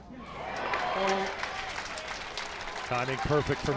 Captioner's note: crowd cheers